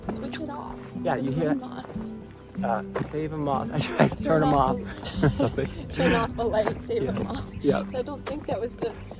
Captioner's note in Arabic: تضحك